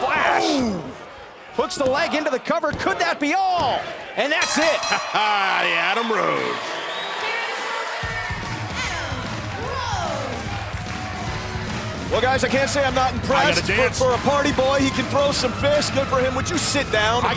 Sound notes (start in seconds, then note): 4.4 bell ringing; 11.0 cheers and applause